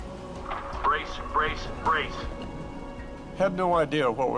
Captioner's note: automated Voice